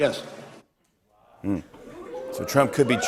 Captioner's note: audience oohs